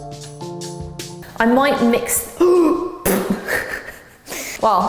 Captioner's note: gasps, laughs